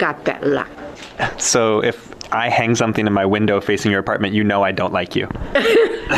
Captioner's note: laughs